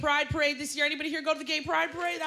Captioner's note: cheers and applause